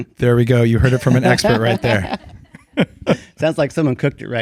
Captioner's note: all laughing